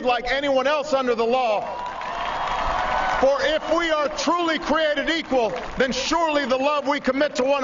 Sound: applause

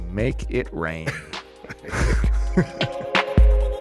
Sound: laughing

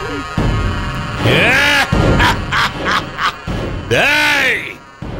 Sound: laughs

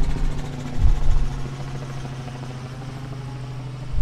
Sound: helicopter passing

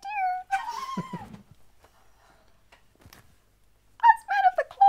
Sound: stunned Silence

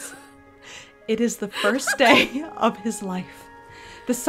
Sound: bamboozled noises

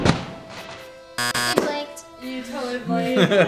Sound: buzzer

